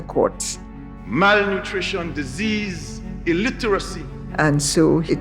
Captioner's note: soundbite of archived recording